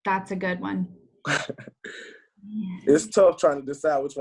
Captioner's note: laughs